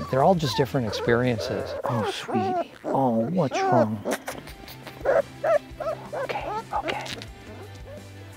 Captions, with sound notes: They're all just different experiences. (puppy squeals) Oh, sweetie. Oh, what's wrong? (loud kisses) (puppy squeals) Okay, okay.